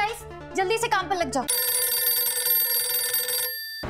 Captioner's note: phone ringing